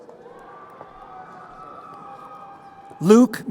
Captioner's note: crowd cheering